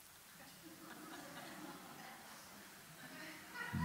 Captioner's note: soft laughter from the audience